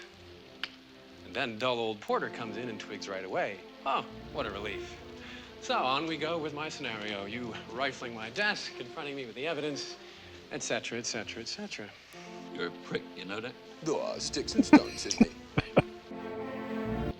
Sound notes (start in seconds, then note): 14.2 laughing